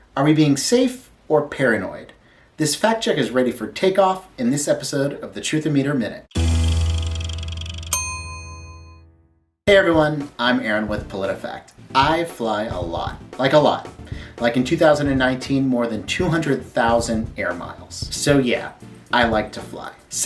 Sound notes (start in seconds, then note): 6.4 calm music; 7.1 clicking, ding